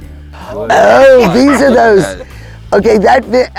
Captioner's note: laughing